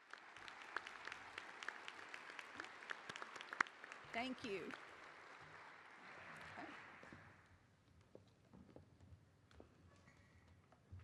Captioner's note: applause